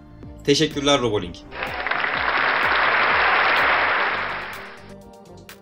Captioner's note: applause